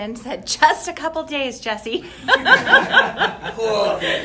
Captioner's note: laughs